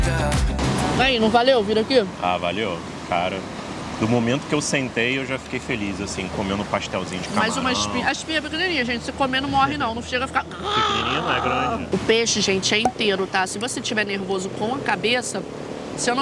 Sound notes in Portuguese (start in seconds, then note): 11.2 imita engasgo